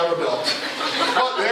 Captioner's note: laughter